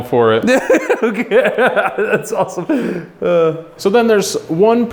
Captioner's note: laughs